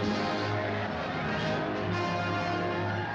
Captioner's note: cheering